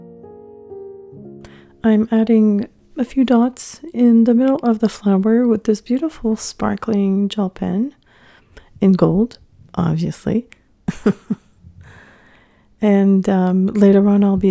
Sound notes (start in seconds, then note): 10.8 laughing